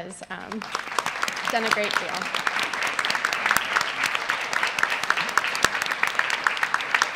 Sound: applause

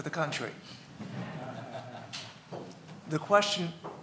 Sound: audience laughing

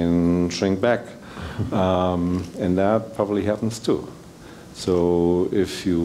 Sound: laugh

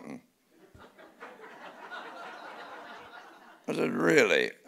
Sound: audience laughing

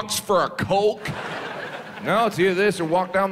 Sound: audience laughs

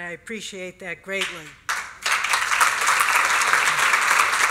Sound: applause

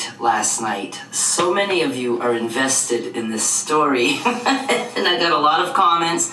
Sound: laughs

